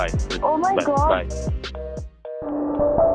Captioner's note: call gets disconnected